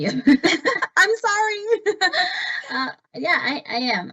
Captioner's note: laughs